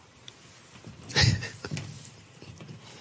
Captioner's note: chuckles